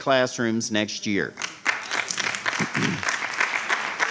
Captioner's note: applause